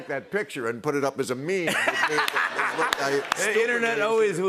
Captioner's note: laughter